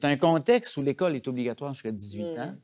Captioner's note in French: exclamation de surprise